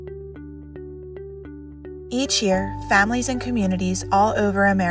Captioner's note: female voice over